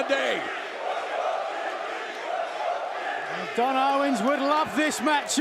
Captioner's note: crowd cheering